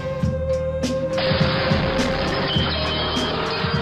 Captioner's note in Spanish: explosión